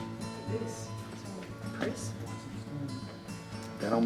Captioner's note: murmurs